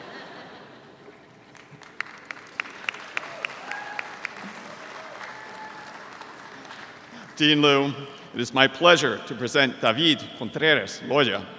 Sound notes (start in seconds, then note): 0.0 audience chuckles; 2.7 audience applauds